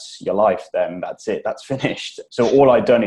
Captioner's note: laughs